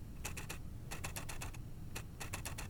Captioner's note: camera aperture clicking